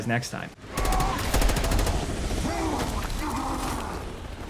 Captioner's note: characters screaming; gunfire ringing out; characters screaming